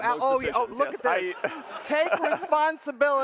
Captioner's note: laughter